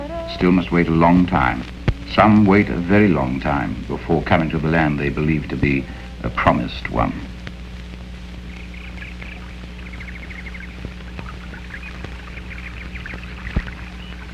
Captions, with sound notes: Still must wait a long time. Some wait a very long time before coming to the land they believe to be the promised one. (birds chirping)